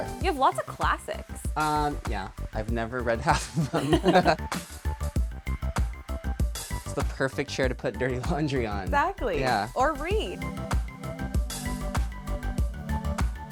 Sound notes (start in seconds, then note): 3.7 laughs; 10.9 upbeat music